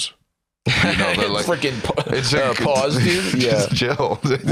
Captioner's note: laughs